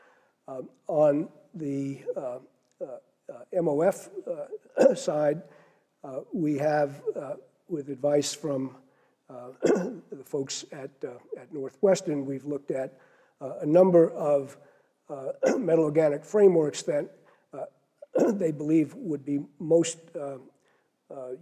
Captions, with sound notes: On the, MOF side. We have with advice from [COUGH] folks at at Northwestern we've looked at a number of. Metal organic frameworks that they believe would be most,